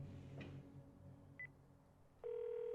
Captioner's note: dial tone buzzing; phone beeping